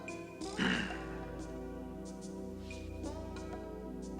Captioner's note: Travis grunting